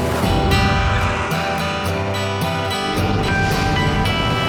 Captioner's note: tractor engine